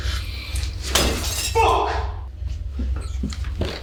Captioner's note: glass shatters